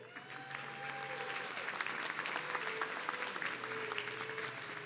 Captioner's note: audience cheering